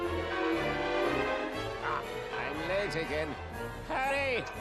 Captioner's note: strong german accent